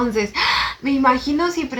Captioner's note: gasp